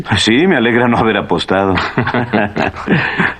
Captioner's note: chuckling